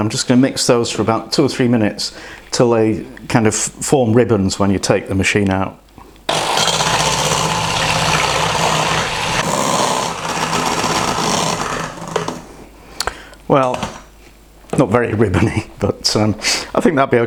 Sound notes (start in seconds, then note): 6.3 mixer noises